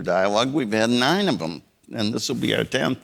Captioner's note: none